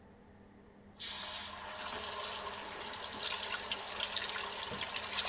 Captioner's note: tap water rushes